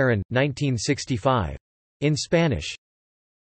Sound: in Spanish

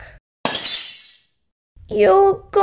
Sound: crash!

